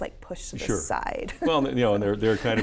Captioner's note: laughs